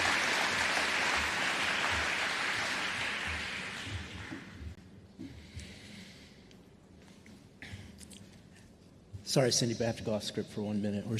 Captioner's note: applause